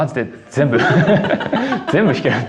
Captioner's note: laughs